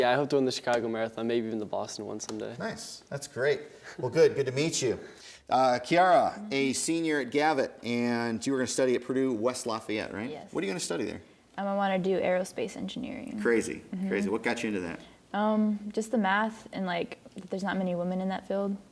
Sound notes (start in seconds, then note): none